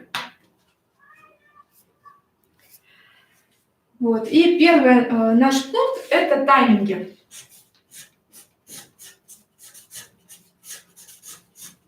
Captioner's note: скрежет маркера по бумаге